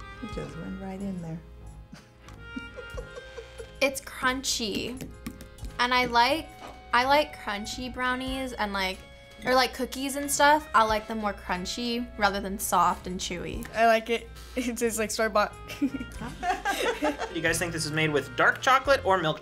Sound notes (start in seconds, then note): 2.0 laughs; 15.7 laughs; 15.7 moms laugh